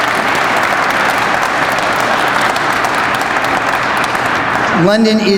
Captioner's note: crowd applauds